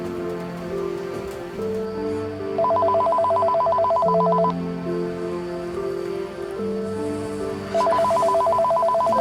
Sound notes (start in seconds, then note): 2.5 crickets distantly chirping; 2.6 phone ringing